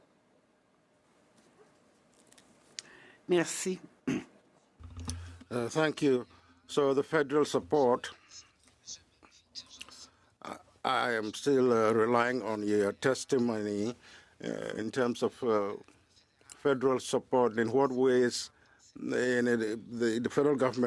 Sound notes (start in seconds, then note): 9.1 speaking French